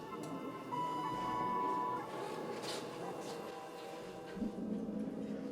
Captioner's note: elevator tone rings; ominous electronic music